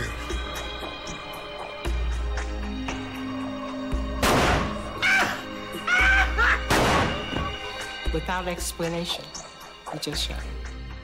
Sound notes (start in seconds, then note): 4.2 gunshot; 5.0 screaming; 6.7 gunshot